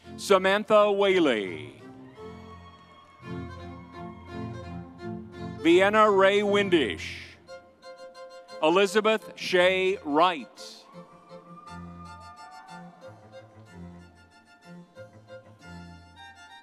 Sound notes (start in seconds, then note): 0.0 vibrant music continues; 2.0 vibrant music continues; 7.6 vibrant music continues; 10.0 audience cheers; 11.0 vibrant music continues